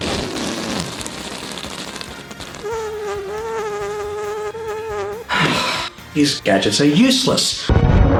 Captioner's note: Undertale fart sounds; Kraid roars